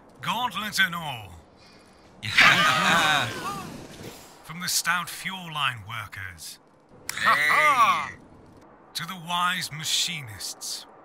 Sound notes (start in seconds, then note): 2.3 cheers excitedly; 7.9 cheering